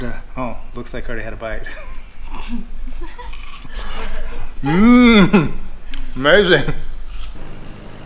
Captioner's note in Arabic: ضحك